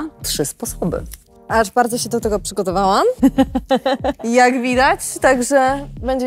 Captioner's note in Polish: śmiech